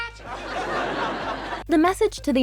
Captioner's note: audience laughter